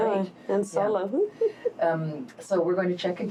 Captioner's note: laughs